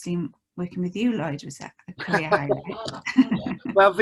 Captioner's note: laughs